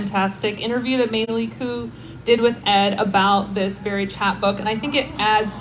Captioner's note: laughter from audience